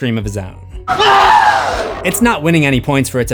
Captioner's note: screams